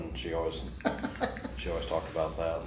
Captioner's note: laughs